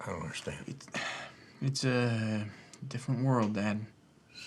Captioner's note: sighs